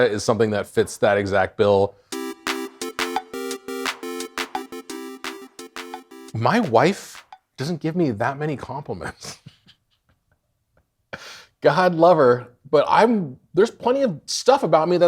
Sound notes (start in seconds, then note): 2.1 upbeat arcade music; 9.2 snickering